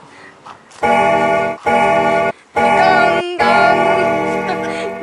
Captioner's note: bell Gonging